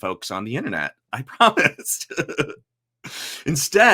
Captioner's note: laughs